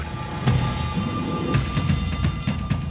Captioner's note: alarm bell ringing